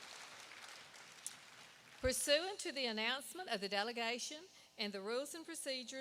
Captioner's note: applause